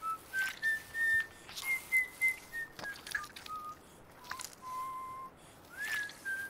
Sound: squelching; whistling

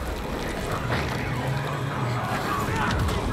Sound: loud roaring

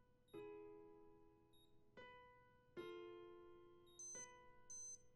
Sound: alarm beeping

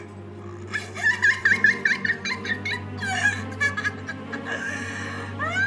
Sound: cackles

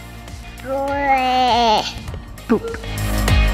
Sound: baby mumble

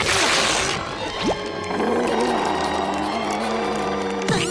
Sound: belching; growling

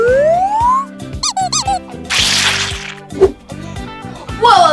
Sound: squeaking sound

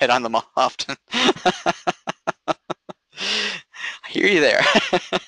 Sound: laughing

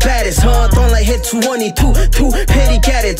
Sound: spit

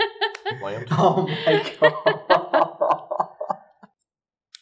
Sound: tense laughter

